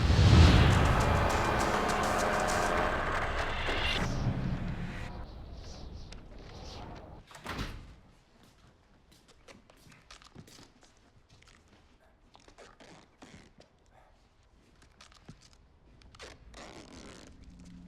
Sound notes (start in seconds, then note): 7.3 door closes; 12.5 duct tape ripping